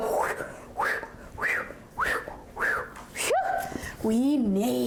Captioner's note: whooshing imitation